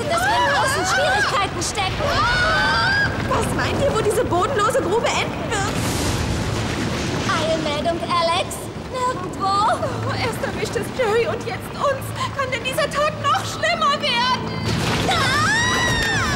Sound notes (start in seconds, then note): 2.0 scream; 7.4 crumble